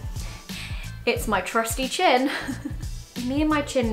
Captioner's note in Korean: 웃음